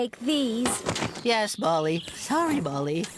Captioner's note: clank!